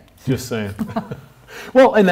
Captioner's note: laughs